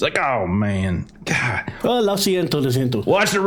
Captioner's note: Spanish